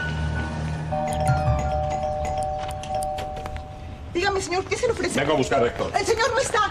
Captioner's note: doorbell